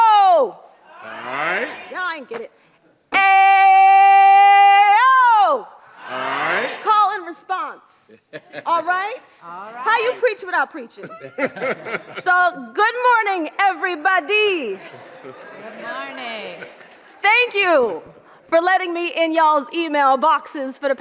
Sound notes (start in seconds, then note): 8.1 group laughs; 10.9 audience laughs